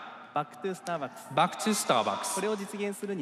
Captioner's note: speaking japanese